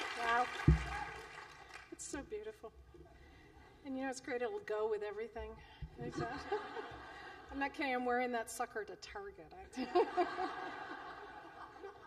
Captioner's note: laughter